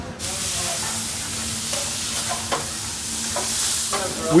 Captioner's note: grill sizzling